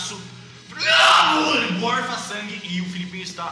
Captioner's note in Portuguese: vomitando